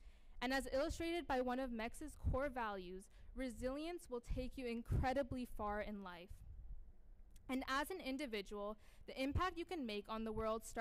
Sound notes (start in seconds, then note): none